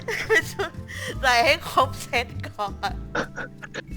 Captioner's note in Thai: หัวเราะ